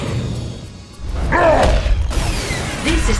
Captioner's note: snarling